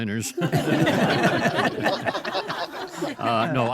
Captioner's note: all laugh